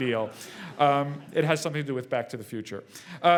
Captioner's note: laugh